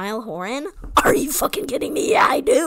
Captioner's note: intense loud voice